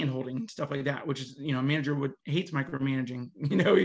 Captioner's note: laughs